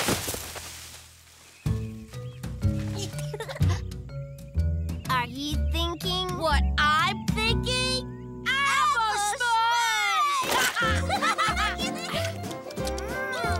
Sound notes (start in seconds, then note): 1.3 giggling; 10.1 laughing